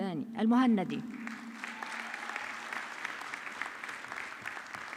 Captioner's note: audience clapping